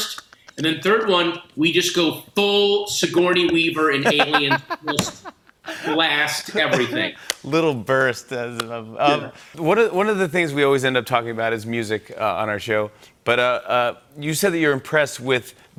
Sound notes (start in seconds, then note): 3.9 laughs